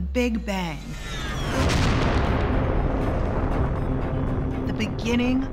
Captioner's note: explosion roars